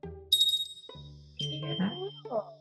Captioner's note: bell chimes